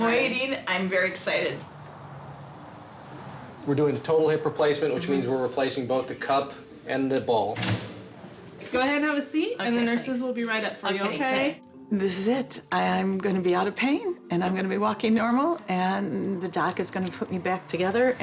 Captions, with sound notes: - I am waiting, I'm very excited. (car engine rumbles) - We're doing the total hip replacement, which means we're replacing both the cup and the ball. - Go ahead and have a seat and the nurses will be right up for you, okay? - Okay, thanks. This is it! I'm gonna be outta pain and I'm gonna be walking normal and the doc is gonna put me back together